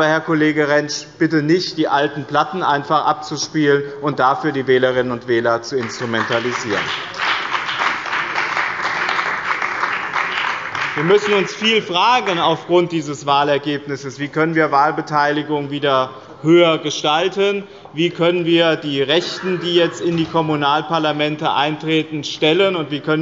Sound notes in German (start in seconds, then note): 5.7 Beifall bei dem BÜNDNIS 90/DIE GRÜNEN und der CDU